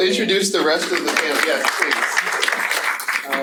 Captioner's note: audience applauding